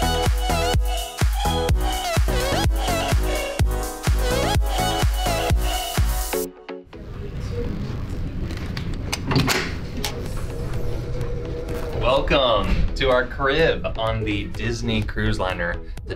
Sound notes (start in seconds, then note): 9.1 door unlocks